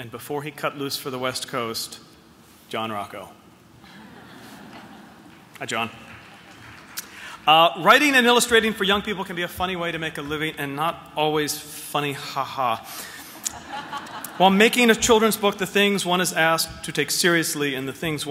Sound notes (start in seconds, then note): 13.2 laughter